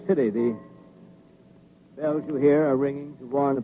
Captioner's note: bells ringing